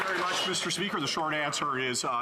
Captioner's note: some Applause